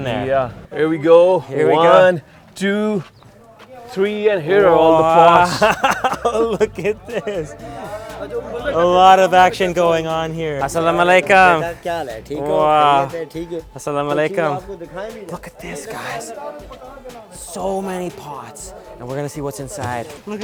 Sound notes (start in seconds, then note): 6.2 laughing; 10.9 speaking foreign language